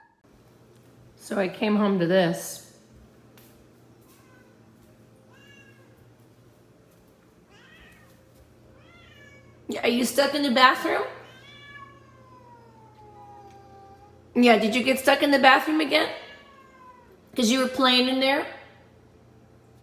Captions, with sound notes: So I came home to this (Meows coming from behind door) Yeah, are you stuck in the bathroom? (Meows continue) Yeah, did you get stuck in the bathroom again? Because you were playing in there?